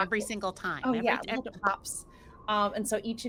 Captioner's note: pops lips